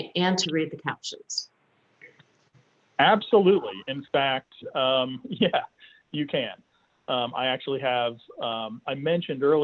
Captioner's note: chuckles